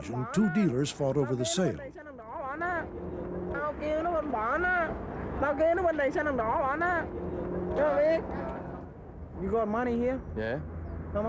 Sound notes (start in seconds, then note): 2.5 dealer speaking in foreign language; 7.9 seller speaking in foreign language